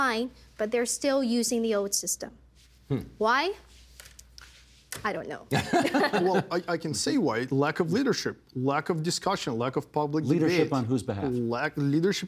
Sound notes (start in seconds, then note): 5.5 laughter